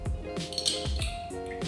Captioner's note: bottle cap squeaks